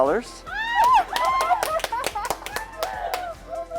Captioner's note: clapping